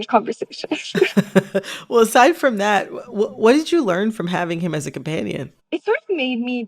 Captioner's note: laughter